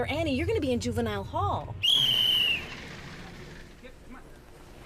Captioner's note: whistle blows